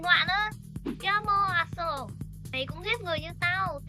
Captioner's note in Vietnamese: Tiếng Pháp